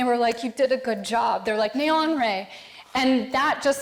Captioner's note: speaking foreign language